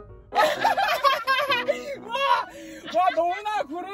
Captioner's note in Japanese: 爆笑